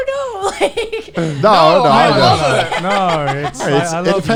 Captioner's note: laughs; sarcastically